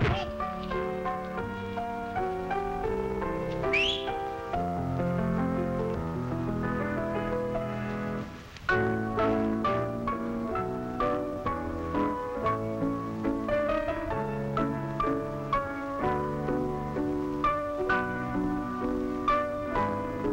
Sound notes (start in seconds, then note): 3.6 whistle; 15.3 piano music